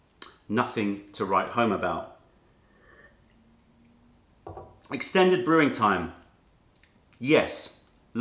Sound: sips tea

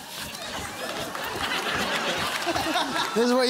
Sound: laughter

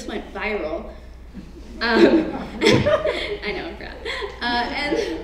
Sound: laugh

